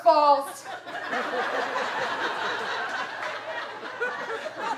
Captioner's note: audience laughing